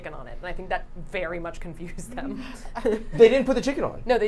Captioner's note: chuckles